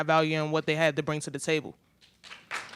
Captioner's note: applause